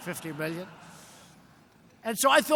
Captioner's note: laughter